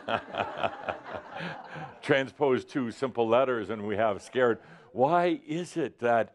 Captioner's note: laughter